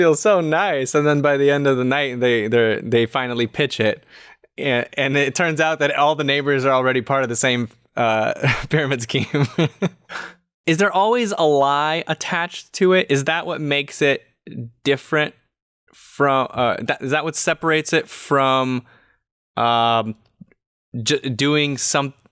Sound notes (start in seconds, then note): 9.1 chuckles